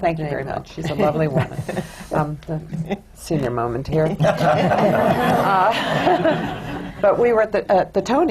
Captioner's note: laughter